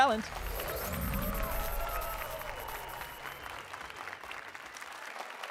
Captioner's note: applause and cheers